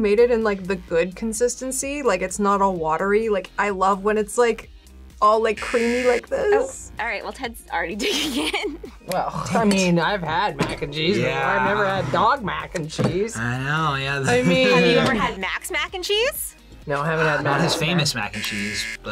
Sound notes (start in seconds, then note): 9.5 snaps; 18.2 buzzer